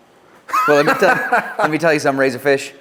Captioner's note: laughs